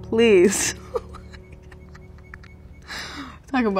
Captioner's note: laughing